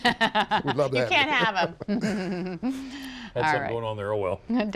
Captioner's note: laughter